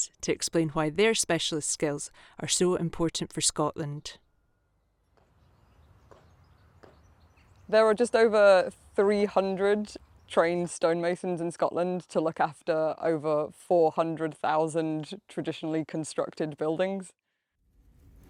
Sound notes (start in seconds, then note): 5.0 birds chirping; 18.0 fire crackling